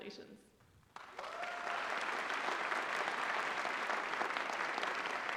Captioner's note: applause